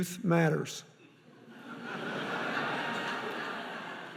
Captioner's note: laughing